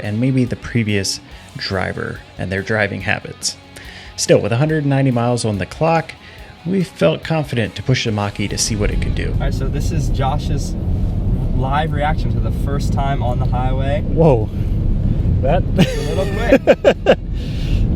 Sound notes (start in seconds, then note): 15.8 laughs